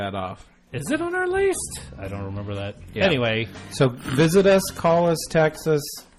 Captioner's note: laughs